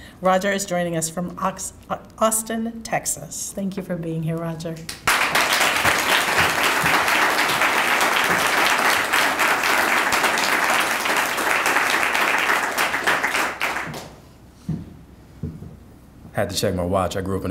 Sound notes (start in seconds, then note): 5.1 audience applauding